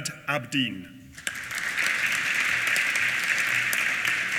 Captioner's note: applause